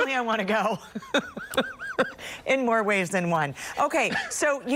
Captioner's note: laughter